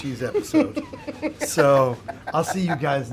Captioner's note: laughing